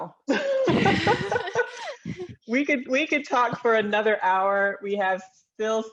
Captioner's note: laughs